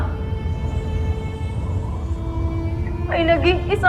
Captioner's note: wind howling